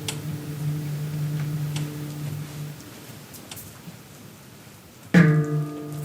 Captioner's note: bell tolls